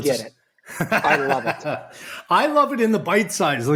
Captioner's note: laughs